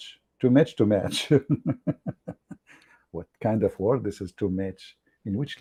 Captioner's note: Ketawa